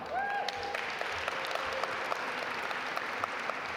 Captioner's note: audience applaud